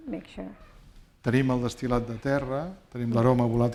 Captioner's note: speaking spanish